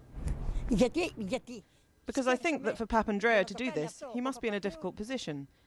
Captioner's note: through translator